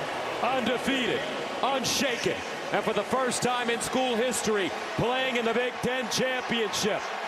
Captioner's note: cheers and applause